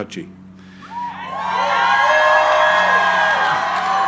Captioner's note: crowd cheering